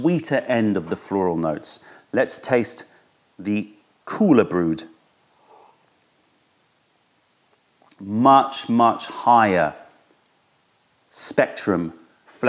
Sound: sips tea

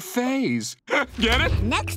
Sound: chuckles

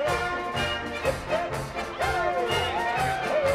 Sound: crowd cheers

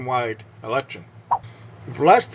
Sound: swipe Sound

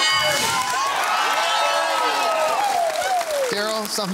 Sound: cheering and applause

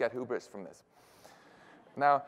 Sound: laughter

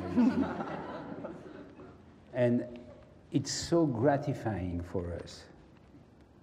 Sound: laugh

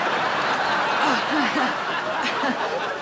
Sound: chuckles nervously

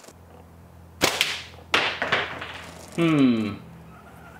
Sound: thwack

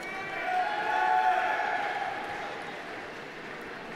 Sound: crowd shouting

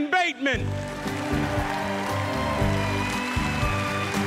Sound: applause, cheering

